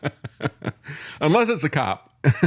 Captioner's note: laughs